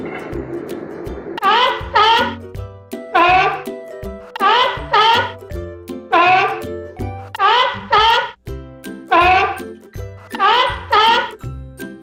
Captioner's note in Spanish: sonido foca